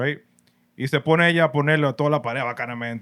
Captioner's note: speaking Spanish